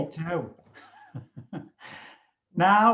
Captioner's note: chuckling